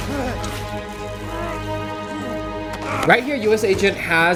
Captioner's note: electricity static cracking